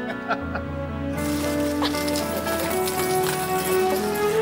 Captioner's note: Chuck laughing; gentle music; coins clattering; people laughing